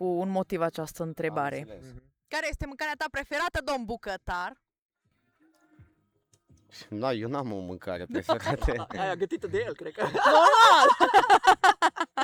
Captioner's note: laughs